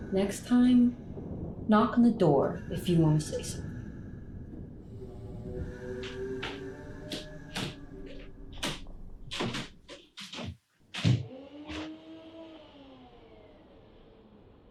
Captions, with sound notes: Next time, knock on the door if you wanna say something. (floor creaking) (blender whirring)